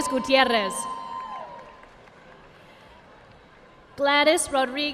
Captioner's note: audience applauding